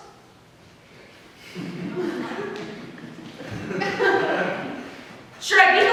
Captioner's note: audience laughs